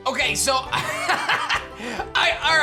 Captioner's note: laughs